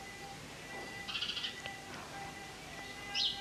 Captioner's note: none